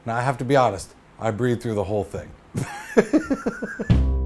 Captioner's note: laughs; theme music plays